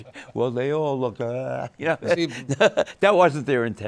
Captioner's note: laughter